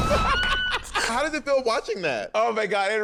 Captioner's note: laughter